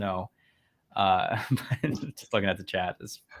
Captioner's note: chuckles